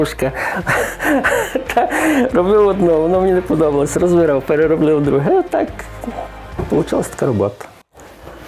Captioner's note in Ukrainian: Сміється